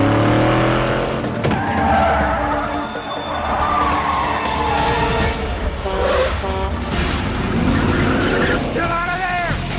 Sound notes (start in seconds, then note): 1.3 car braking; 5.6 truck horn